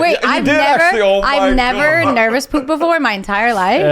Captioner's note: laughs